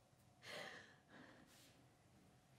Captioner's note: leah gasps